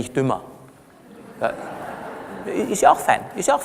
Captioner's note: laughter from the audience